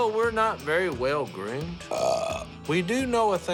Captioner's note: burps